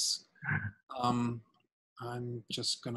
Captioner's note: laughing